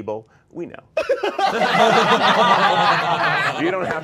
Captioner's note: all laughing